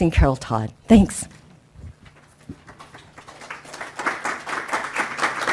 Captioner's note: applause